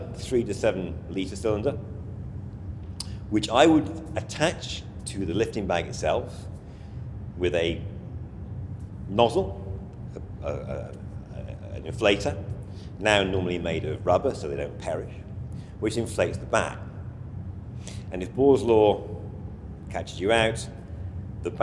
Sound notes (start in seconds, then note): 2.9 tongue clicks